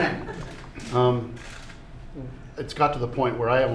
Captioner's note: laughter